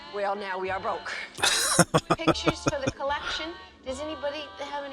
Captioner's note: laughing